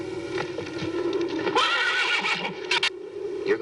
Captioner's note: horse neighing